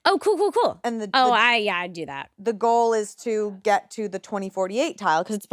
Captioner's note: none